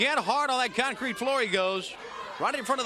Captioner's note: crowd chatter